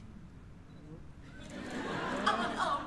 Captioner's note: laughter